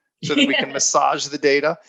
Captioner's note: laughing